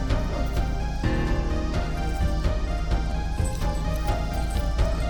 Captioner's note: struggling groan, heavy breathing; chains rattling